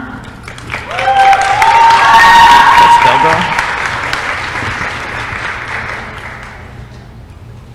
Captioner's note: applause & cheering